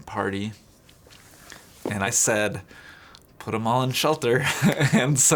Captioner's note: laughs